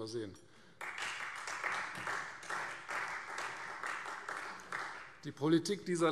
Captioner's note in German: Beifall Freie Demokraten